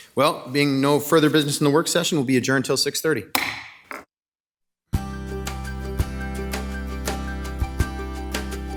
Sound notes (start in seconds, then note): 3.4 hammer bangs